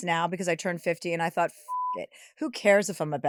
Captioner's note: beep